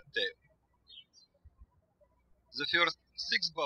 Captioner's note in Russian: птички щебечут